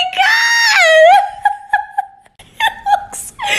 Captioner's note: more wheezing